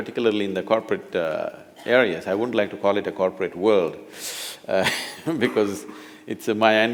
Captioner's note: laughs